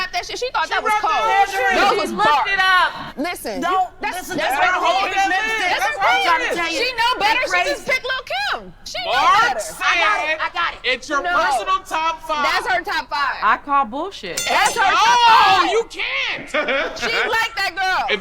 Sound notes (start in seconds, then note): 14.3 bell dinging; 16.8 man laughing